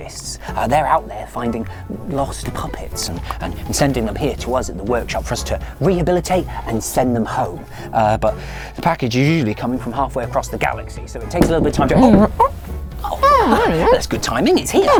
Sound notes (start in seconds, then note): 11.4 knock at door